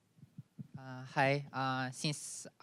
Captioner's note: with Japanese accent